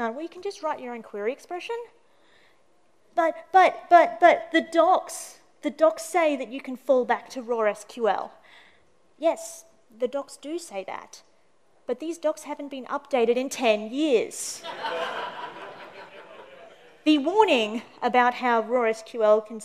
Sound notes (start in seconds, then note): 14.6 laughter